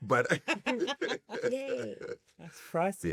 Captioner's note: laugh